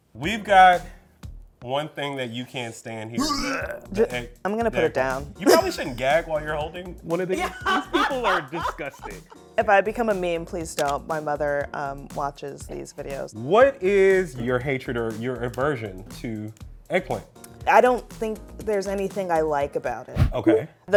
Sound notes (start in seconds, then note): 3.2 gagging; 7.3 laughing